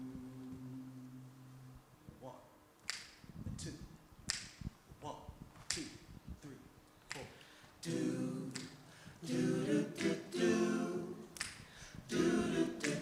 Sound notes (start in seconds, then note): 0.0 singers vocalizing note; 6.8 snapping